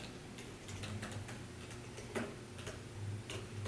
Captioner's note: furious typing